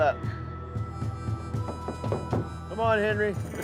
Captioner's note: knocking